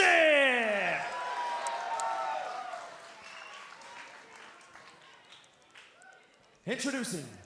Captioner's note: crowd cheering